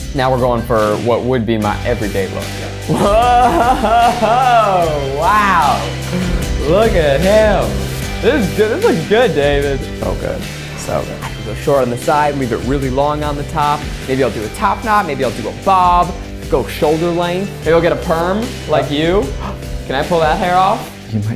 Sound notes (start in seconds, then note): 2.8 laughs